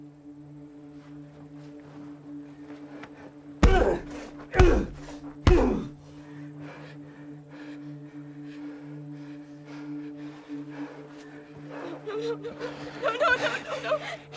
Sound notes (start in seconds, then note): 3.6 grunting; 8.1 taking deep breaths; 12.1 sobbing